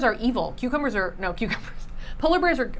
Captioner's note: laughing